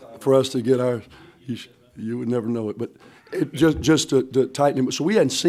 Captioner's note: laughs